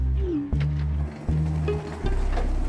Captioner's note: gentle music; phone chiming